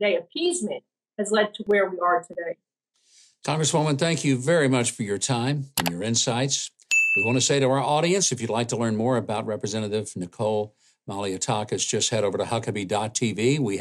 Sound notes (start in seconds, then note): 5.7 mouse clicks; 6.9 bell dings